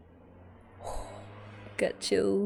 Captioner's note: exhales